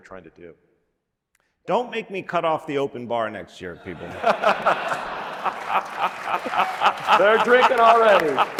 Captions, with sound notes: we were trying to do. Don't make me cut off the open bar next year, people. [LAUGHTER] They're drinking already.